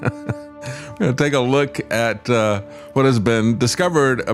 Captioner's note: laugh